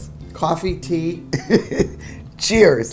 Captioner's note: laughing